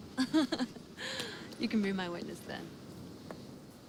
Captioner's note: laughs